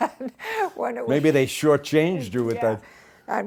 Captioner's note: both laugh